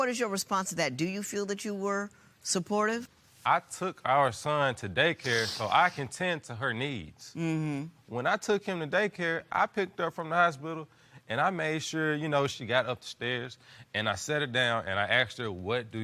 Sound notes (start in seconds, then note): none